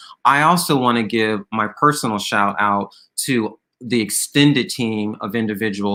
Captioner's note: none